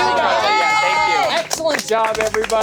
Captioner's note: everyone cheering